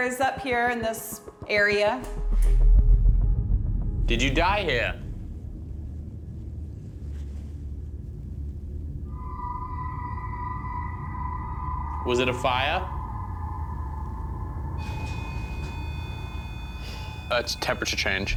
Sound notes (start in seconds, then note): 5.0 ominous music; 14.6 beeping